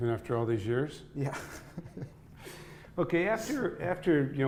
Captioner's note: laughing